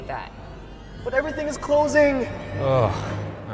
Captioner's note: groan